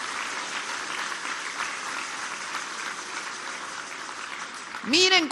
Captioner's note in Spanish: aplausos